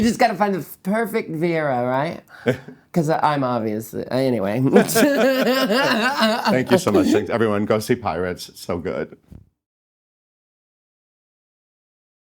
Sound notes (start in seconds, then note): 4.7 both laughing